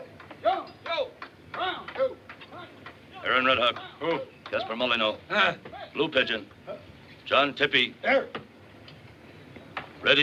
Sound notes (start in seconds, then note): 3.1 MEN SHOUTlNG ORDERS